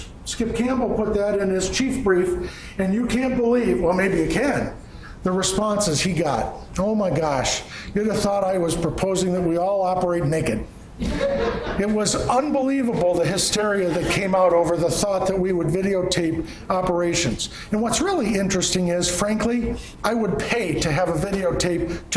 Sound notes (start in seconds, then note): 11.0 laughing